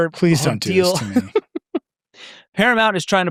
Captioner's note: laughing